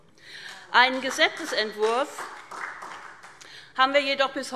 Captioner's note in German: Beifall SPD